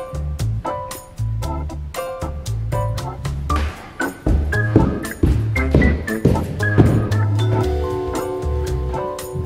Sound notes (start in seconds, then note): 3.4 heavy footsteps